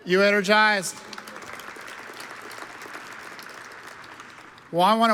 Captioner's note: audience applauds